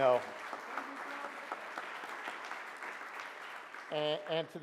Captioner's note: audience applauds